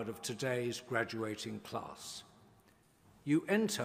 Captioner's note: none